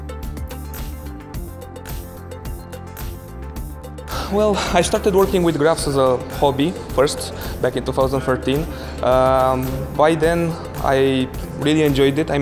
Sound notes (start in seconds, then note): 0.2 synth music; 4.0 sighs